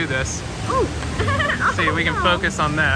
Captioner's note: laughs